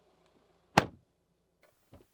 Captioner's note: door Thud